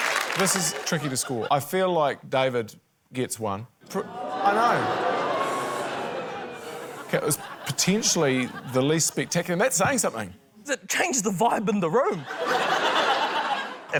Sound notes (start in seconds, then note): 4.1 audience boos; 12.1 laughter